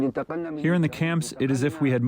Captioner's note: through translator